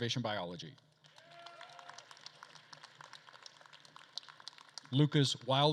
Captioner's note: attendees cheering and applauding